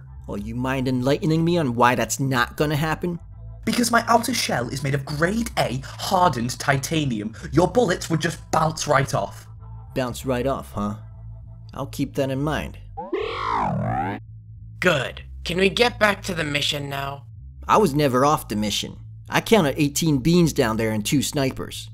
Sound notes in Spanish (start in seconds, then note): 13.0 sonidos robóticos; 14.8 con voz masculina diferente